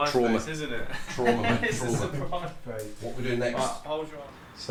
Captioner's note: laughs